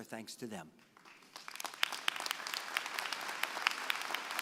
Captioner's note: applause